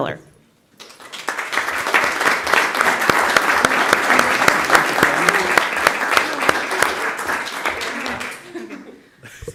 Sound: applause

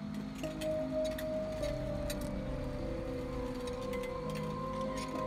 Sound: metal wheels clucking; somber music continues

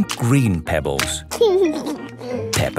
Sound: laughing

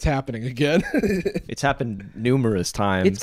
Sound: laughs

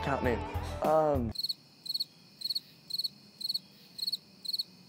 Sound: crickets chirping

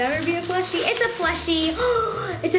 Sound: gasps

